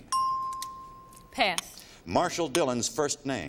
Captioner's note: chimes